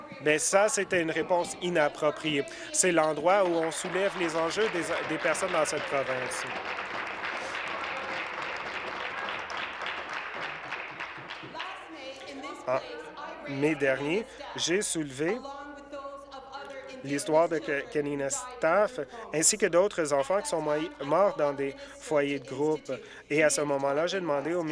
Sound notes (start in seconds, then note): 8.4 applause